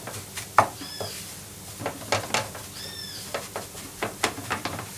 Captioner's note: wild birds singing in the garden